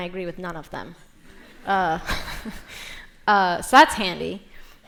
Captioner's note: laughter